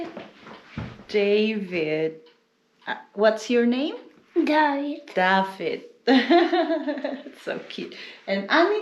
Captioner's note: laughs